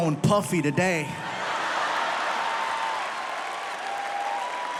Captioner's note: audience laughs